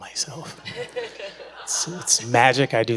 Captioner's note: audience laughs